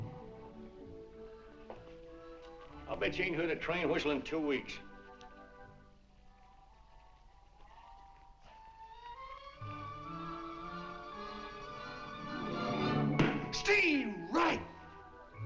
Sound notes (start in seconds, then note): none